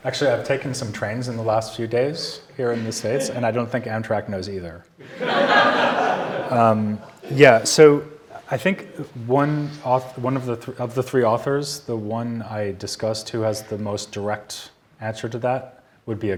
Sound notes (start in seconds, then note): 5.0 audience laughing